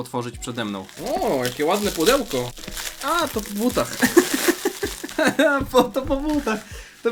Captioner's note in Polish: śmiech